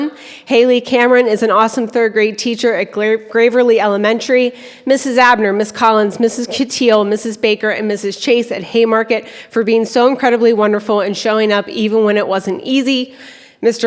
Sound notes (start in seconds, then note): none